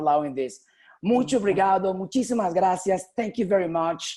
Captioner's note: speaking spanish